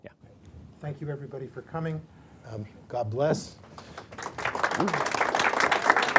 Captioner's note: applause